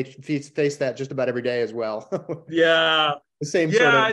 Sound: laughs

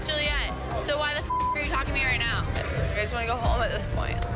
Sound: beep

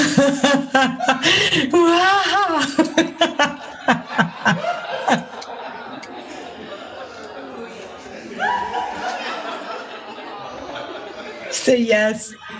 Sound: laughs

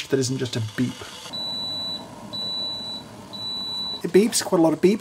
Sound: kettle beeps

